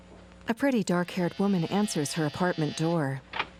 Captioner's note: door buzzer rings